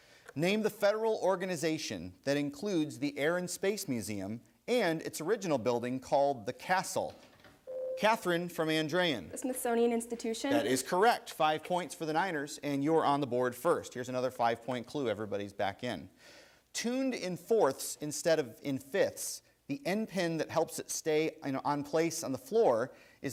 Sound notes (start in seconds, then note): 7.6 bell rings